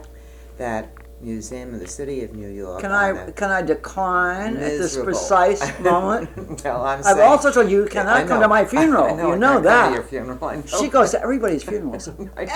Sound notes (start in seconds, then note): 5.2 laughter; 9.6 laughs